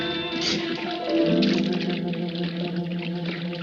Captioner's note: liquid sloshing